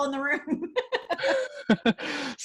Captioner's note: laughs